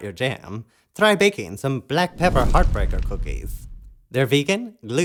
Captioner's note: crackle